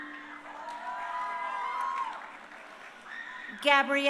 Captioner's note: crowd cheering